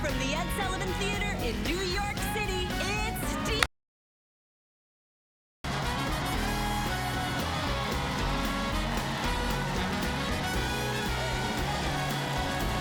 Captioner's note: cheers and applause